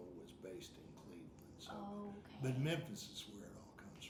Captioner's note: none